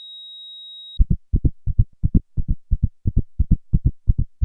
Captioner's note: flatline beep; escalated heart beats